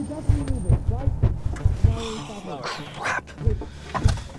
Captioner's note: fist pounding